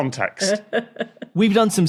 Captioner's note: chuckles